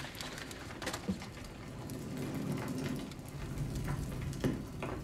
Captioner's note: paper crinkling; fire roaring